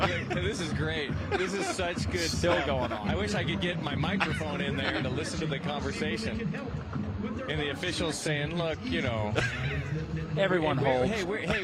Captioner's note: laughter